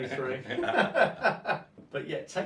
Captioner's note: both men laugh